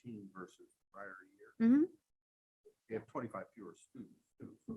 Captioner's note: faintly speaking